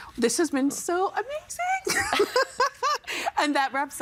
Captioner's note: laughing